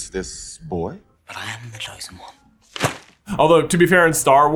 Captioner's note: thwack!